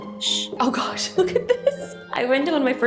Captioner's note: chuckles